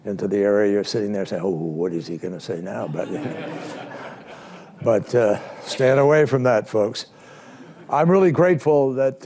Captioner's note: laughter